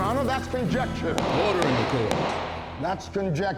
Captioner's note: bangs gavel